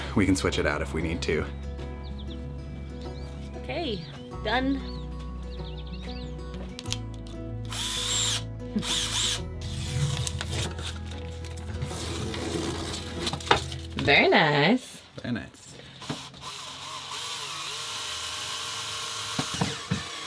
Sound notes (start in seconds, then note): 8.8 drill powering; 16.0 drilling